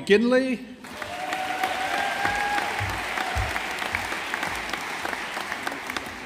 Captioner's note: audience applauding